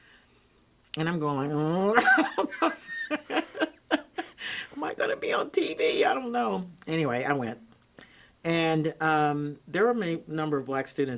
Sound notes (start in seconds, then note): 2.0 laughs